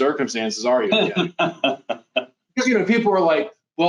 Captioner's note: laughs